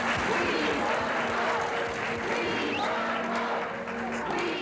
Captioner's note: chanting